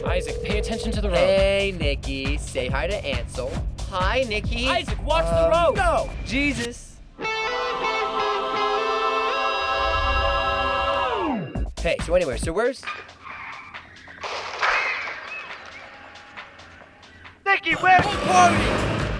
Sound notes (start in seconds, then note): 10.4 music fades; 13.1 tires screeching; 14.3 crashing